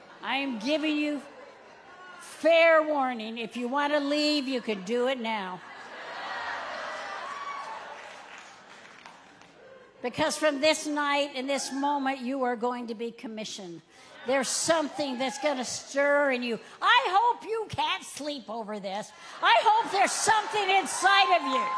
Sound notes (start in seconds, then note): 5.7 audience laughing and clapping